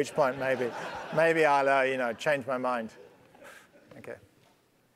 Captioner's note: laugh